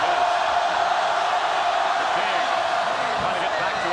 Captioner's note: crowd cheers